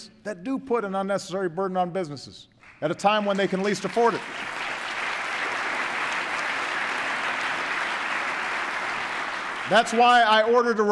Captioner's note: applause